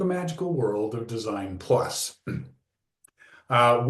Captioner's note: clears throat